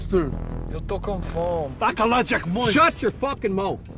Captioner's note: group speaking in foreign language